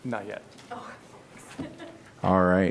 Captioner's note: laughter